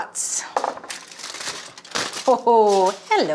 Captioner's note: foil rustles